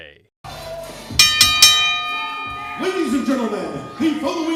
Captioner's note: bell dings